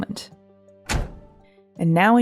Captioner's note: car door sound